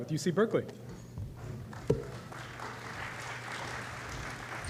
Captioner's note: applause